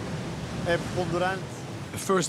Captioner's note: speaking in foreign language